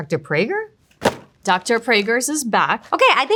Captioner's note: packaging thudding